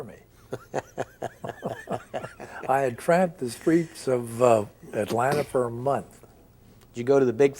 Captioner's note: both chuckle